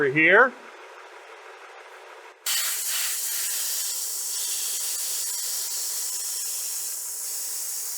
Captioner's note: air hissing sound